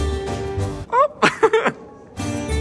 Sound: laughs; bright music continues

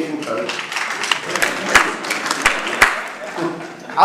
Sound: clapping

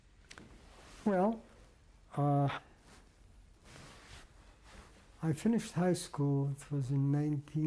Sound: pauses for 3 seconds

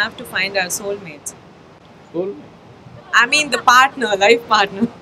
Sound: laughs

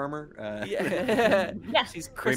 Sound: chuckling

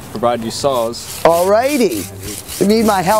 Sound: saw slicing

